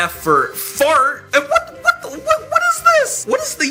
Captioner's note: stutters